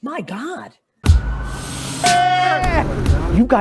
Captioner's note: plane engine running